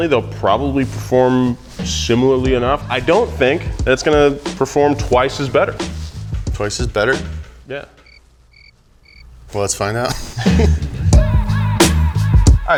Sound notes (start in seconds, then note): 8.4 crickets chirping; 10.0 laughs; 10.1 moderate hip-hop music